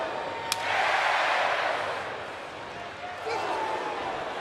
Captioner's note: audience cheering